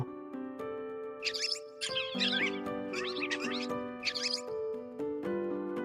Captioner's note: squeak squeak